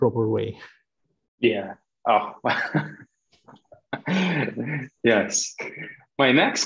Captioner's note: laughing